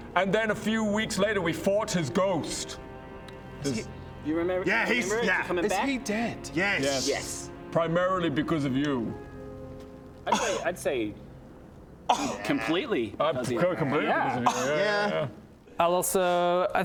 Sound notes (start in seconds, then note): 10.2 scoff